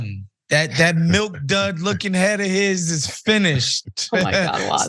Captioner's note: laugh